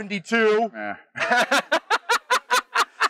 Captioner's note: laughs